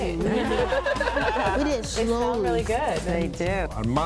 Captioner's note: laughter